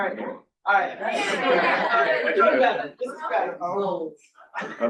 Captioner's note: crowd chuckling